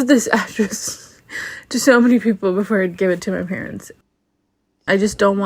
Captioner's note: laughs